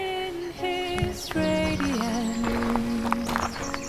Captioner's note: sound of footsteps